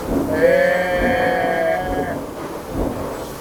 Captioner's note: epic goat sounds